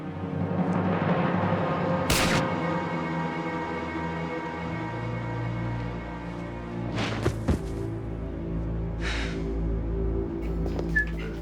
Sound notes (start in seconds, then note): 2.1 gunshot firing; 7.0 Kari thudding; 8.9 Tamara sighing